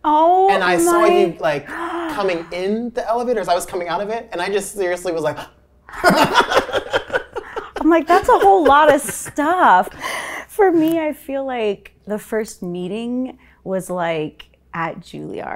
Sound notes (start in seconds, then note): 5.9 laughing